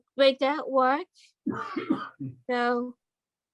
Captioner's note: coughs